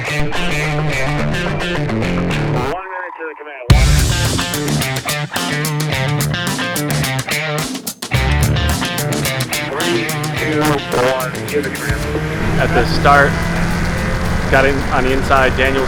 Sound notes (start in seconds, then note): 2.9 announcer On Radio